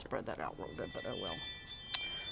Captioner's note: sound of Alarm going off